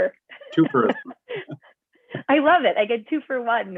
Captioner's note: laughter